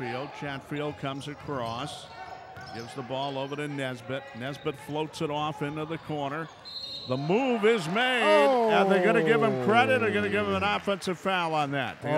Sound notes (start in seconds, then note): 0.0 yelling; 6.6 whistle blows